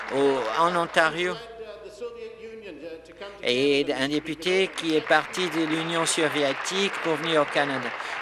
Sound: applause

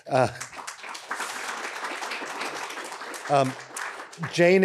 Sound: crowd applauds

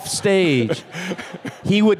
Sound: Bob chuckling

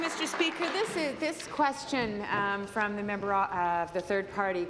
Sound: applause

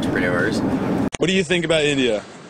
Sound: voiceover

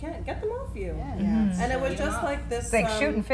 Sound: women agreeing

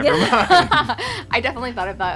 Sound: laughing

